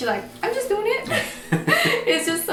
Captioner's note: both laugh